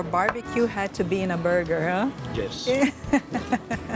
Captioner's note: laughs